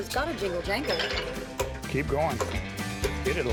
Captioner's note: hammering